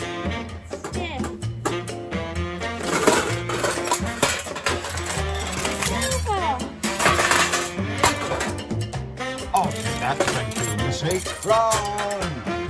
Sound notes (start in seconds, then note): 0.0 pompous comedy music; 2.8 clattering metal; 6.3 pompous comedy music; 6.8 clattering metal; 7.0 pompous comedy music; 11.7 pompous comedy music